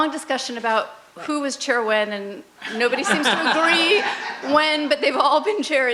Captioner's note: laughs